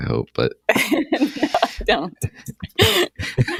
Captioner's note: laughter